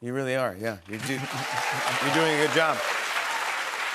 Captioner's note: cheers and applause